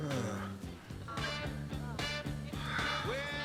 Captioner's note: sighs